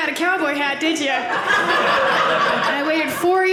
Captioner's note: audience laughing